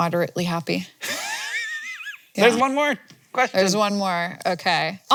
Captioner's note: laughs